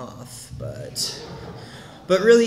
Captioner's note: quiet laughter from the audience